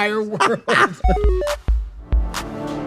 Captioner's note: Trixie laughing